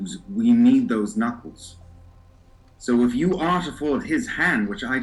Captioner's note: none